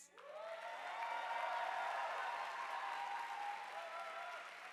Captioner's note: audience applauding